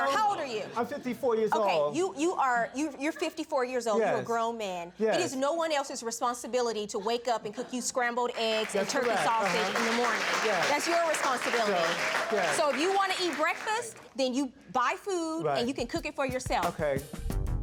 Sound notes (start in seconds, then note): 8.3 audience applauding